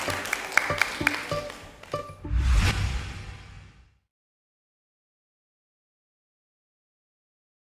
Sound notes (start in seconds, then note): 1.6 audience applauding; 1.6 upbeat music; 4.6 whooshing